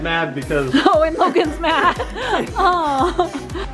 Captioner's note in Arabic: ضحكات خافتة